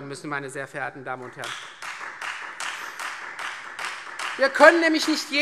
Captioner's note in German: Beifall Freie Demokraten